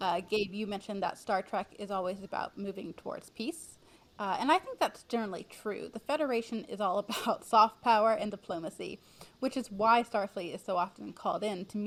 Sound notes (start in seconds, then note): 7.1 chuckles